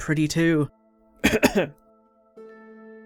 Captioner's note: coughs